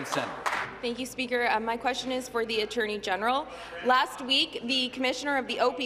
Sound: applause

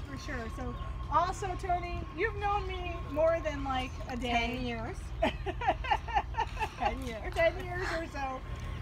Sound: laughter

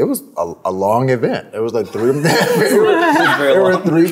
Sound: everyone laughs

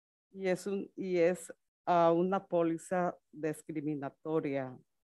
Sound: speaks Spanish

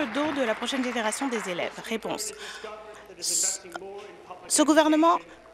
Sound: applause

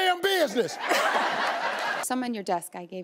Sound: audience laughing

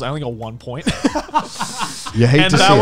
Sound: laughing

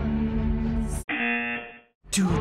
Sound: singing along; buzzer; singing along

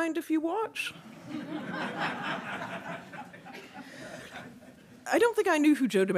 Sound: audience laughing

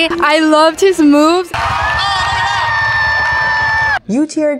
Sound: cheers

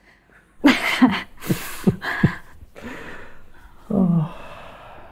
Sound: both laughing

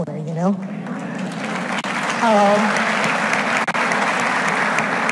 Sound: audience applauds

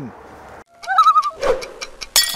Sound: loon call

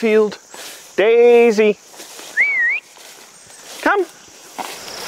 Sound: whistle

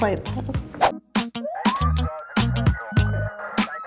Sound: siren

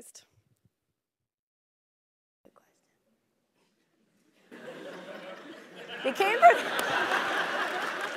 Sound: laugh

